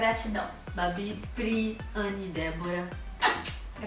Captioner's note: kiss sound